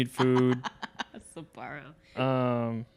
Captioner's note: laughing